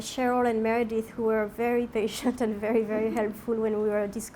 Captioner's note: laughs